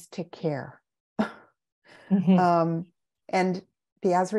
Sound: both chuckle

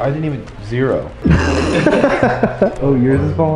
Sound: laughs

